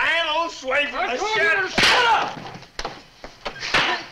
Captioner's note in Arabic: صفعة يد